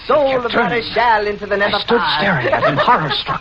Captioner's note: cackles maniacally